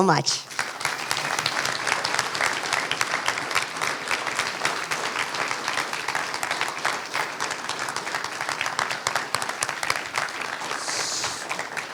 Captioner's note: applause